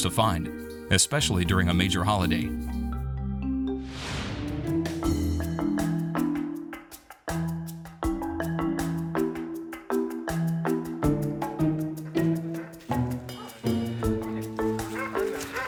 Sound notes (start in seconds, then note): 3.5 upbeat music; 3.9 frame wooshes; 12.4 dog barking